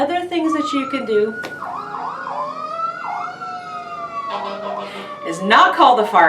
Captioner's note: firetruck sirens